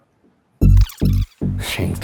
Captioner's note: tape fast-forwarding